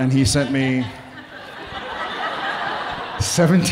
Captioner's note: audience laughing